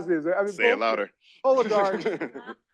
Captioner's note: chuckles